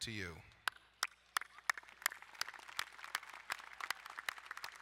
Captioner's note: applauding